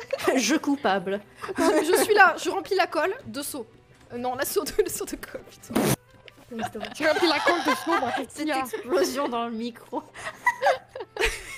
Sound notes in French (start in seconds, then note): 6.6 pffff + rires; 9.9 rires